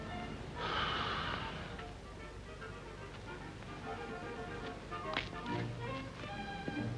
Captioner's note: gentle music; Ollie sighs